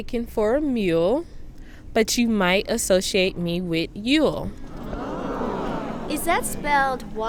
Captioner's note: audience responds